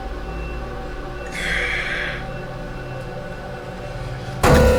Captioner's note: Massai sighs; ominous music